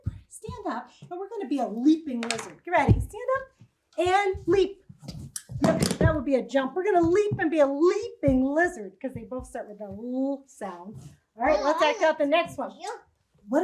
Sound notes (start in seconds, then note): 2.0 marker clatters; 4.0 heavy stomps